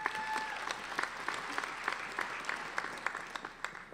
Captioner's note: applauding